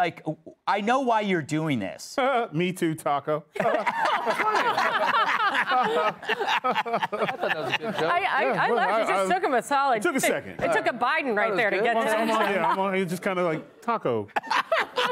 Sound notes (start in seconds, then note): 10.4 laughs; 14.3 laughter